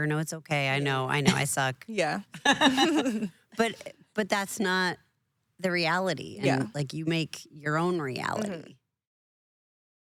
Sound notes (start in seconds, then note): 2.4 laughing